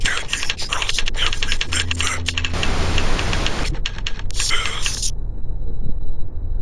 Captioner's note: static crackling